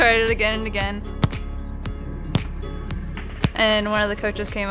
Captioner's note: foot hitting football